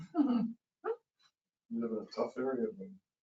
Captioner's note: laughing